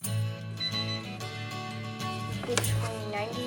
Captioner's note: beeping